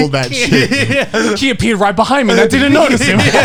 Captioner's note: laughs